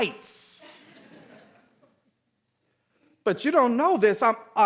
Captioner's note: audience laughing